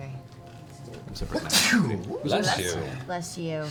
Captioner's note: sneezes